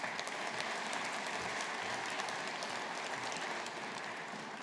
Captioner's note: audience applauding